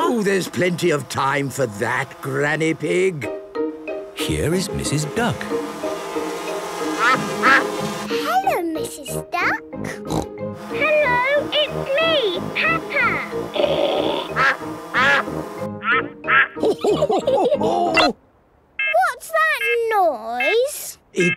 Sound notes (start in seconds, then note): 6.9 quacking; 9.8 snorting; 13.5 quacking; 13.5 snorting; 15.8 quacking; 16.6 laughter; 18.2 beeping